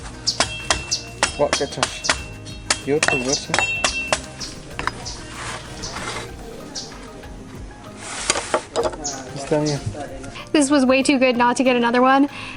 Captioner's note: speaking Mayan